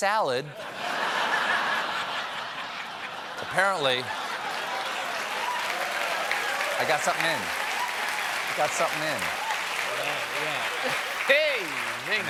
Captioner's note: laughter